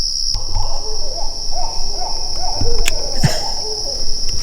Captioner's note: owls hooting